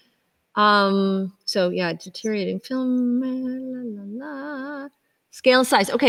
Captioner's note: softly humming